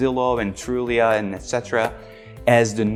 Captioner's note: hands clapping